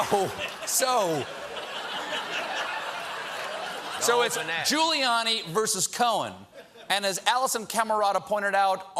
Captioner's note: laughter